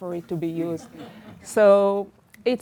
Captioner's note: audience laughs